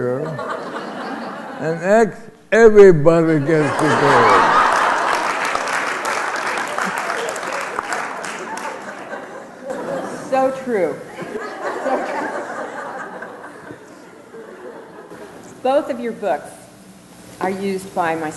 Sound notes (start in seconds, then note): 3.7 applause